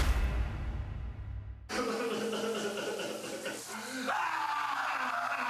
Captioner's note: crying